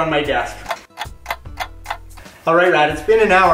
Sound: clock ticking

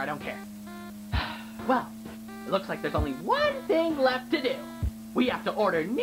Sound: sigh

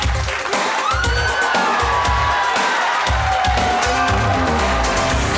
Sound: audience laughing and murmuring

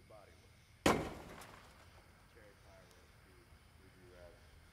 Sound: gun shot firing

